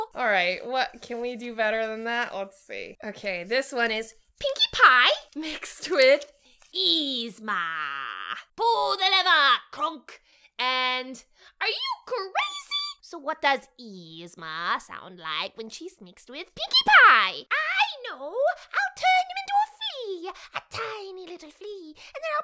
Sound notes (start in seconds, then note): none